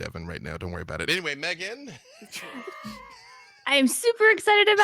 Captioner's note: laughs